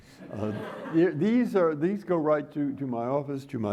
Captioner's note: audience applauding